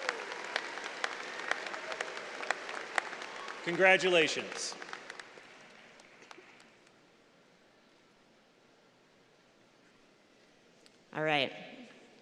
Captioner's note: applause